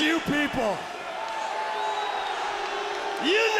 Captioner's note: audience jeering